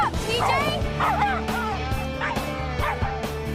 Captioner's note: dog barking